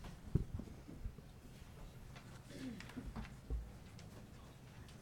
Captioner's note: people chattering